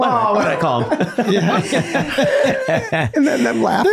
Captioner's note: everyone laughing